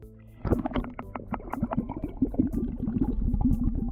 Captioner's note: sound of bubbling water